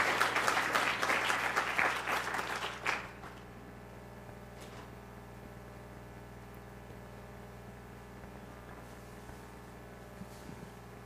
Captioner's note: applause